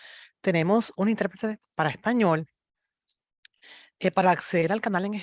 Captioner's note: speaks in Spanish